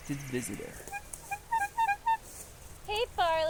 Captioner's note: horn blowing